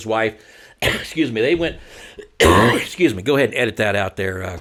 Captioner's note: coughing